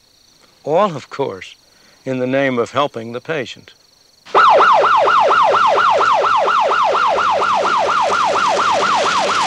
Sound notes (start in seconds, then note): 4.3 ambulance siren